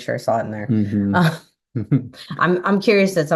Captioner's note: laughs